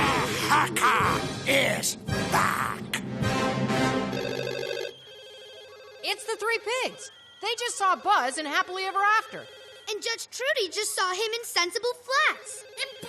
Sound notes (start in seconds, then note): 4.1 phones ring